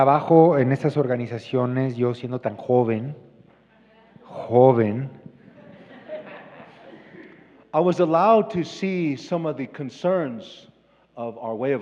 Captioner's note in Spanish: risas